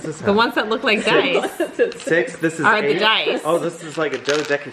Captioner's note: laughing